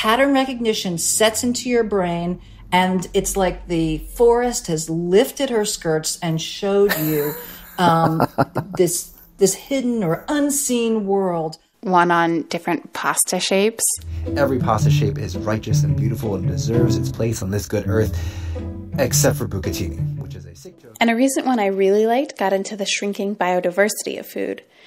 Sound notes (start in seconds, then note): 6.8 laughter; 14.0 soundbite of archived recording